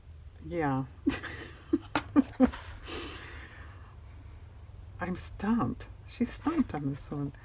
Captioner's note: laughs